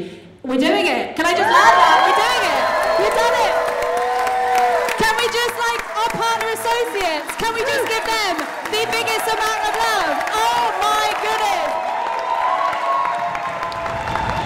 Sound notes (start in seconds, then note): 1.5 cheering; 12.1 cheering